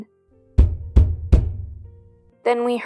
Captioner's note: knock knock Knock